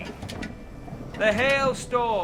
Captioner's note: thunder sound effect plays